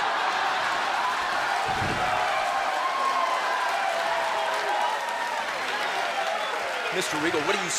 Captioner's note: crowd cheering